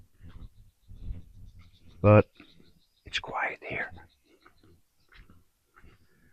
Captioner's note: whispers